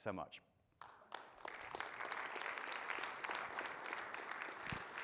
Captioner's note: audience applauding